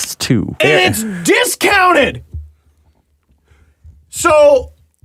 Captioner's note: incredulous